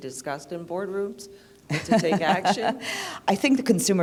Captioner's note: laughter